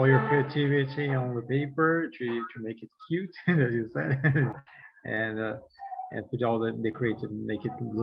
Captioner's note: chuckles